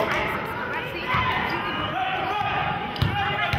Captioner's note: yelling